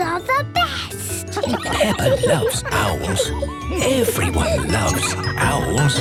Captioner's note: kids giggling; narrator whispering; laughing